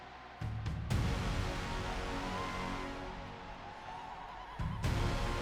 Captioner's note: applause